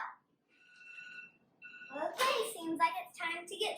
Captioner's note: alarm trilling